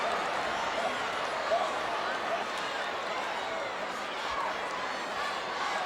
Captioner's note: audience chattering